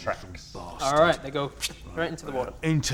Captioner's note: pfft